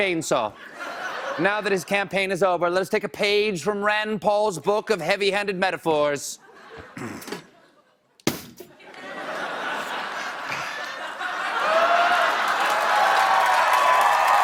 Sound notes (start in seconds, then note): 5.6 cheers and applause; 5.6 laughter